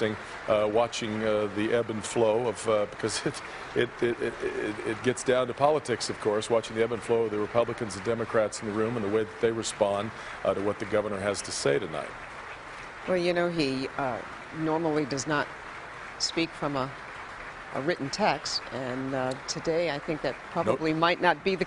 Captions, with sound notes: HE ALSO CALLED HURRICANE KATRINA. [APPLAUSE] INTERESTING TO WATCH THE EBB AND FLOW OF THE REPUBLICANS AND DEMOCRATS IN THE ROOM AND THE WAY THEY WILL RESPOND TO WHAT THE GOVERNOR HAS TO SAY TONIGHT.